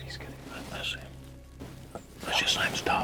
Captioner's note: whispering